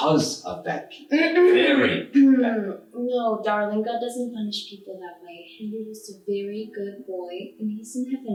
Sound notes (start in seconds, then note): 1.5 clears throat to interrupt